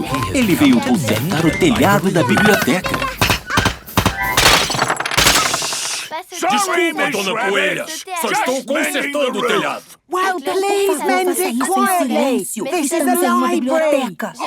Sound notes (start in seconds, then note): 2.9 banging, crashing